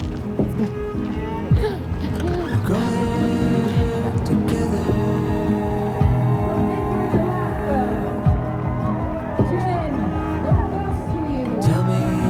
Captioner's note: crowd cheering